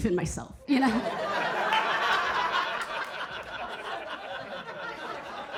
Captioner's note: audience laughing